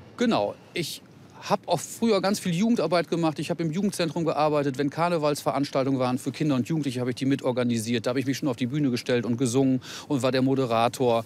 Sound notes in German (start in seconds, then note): none